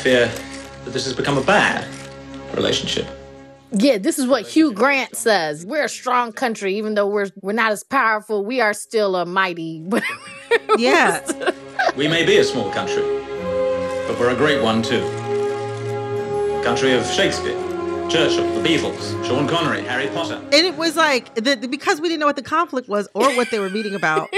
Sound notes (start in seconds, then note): 9.9 laughter